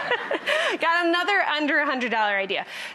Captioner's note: laughs